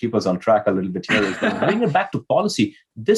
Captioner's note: laughs